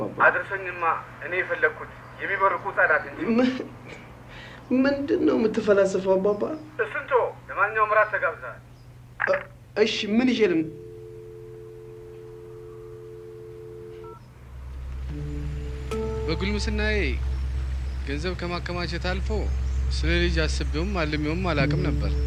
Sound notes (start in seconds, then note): 10.6 phone Hung-up; 14.6 sombre Background Music